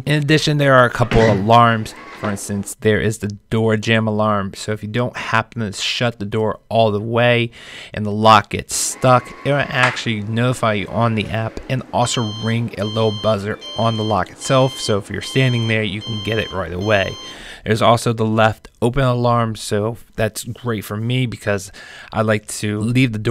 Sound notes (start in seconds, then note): 1.0 lock whirrs; 8.8 lock whirrs; 12.0 lock alarm beeping